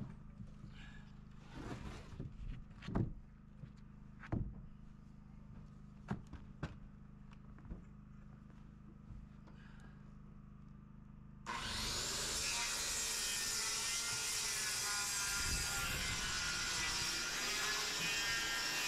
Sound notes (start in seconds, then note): 11.5 drilling